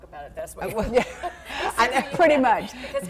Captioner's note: laughter